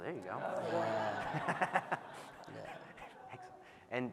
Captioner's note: audience laughing